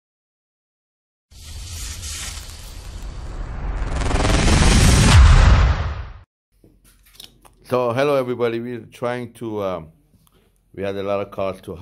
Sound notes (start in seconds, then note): 1.4 electric waves; 5.3 gunshot